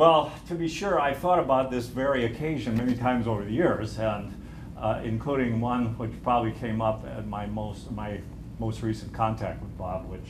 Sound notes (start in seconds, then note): none